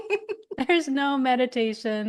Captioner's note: laughing